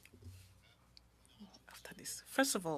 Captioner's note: speaking French